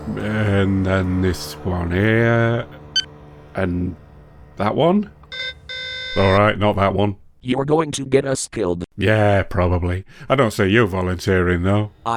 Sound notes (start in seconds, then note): 5.1 alarm